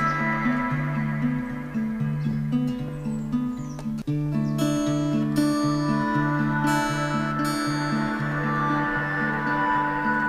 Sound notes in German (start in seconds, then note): 2.3 Vogelzwitschern